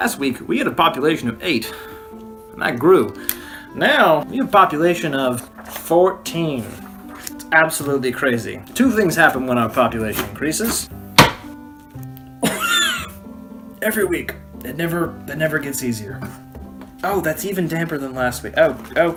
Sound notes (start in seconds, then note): 12.4 cough